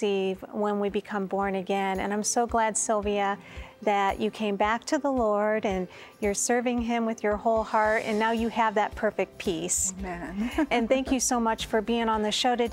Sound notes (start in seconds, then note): 10.2 giggling